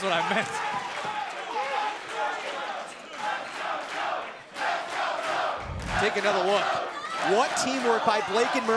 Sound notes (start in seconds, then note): 0.0 crowd cheering